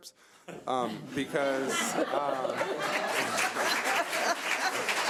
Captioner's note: audience applause